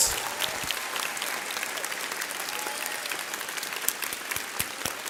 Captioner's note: audience applauds